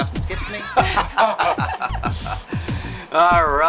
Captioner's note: group laughs